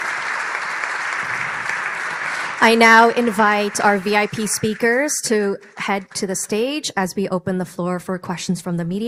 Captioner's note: applause